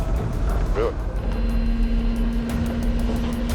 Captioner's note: machinery whirring